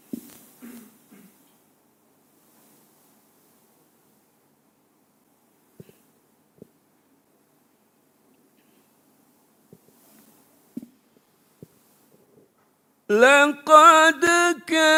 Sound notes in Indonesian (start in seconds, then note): 0.6 batuk; 0.6 berdehem